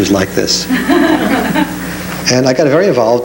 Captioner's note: audience laughs